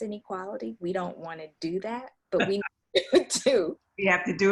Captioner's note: laughs